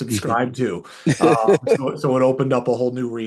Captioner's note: laughs